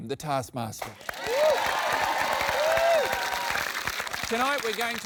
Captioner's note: cheering, applause